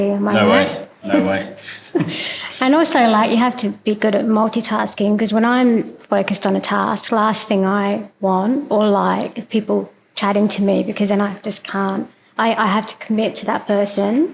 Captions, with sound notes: Am I right? No way. No way. (Laugh) And also, like, you have to be good at multitasking, because when I'm focused on a task, last thing I want, or like, is people chatting to me--I just can't--I have to commit to that person.